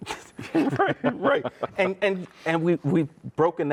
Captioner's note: both laughing